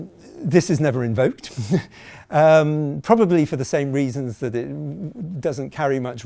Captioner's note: chuckling